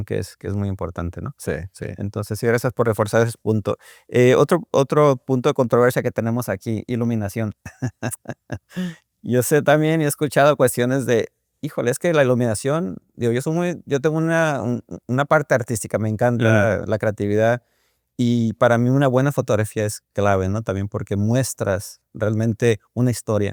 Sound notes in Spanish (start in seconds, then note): 7.6 risas